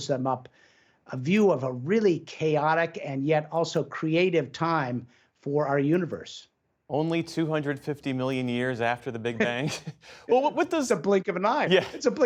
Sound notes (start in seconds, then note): 9.3 laughter